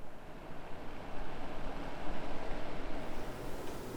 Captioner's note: blower fan ramps up to speed